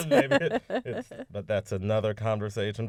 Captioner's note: laughter